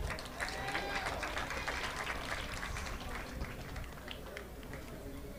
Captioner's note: audience applauding